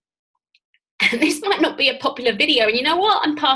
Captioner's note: laughs